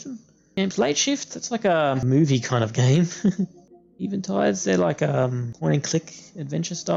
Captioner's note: haha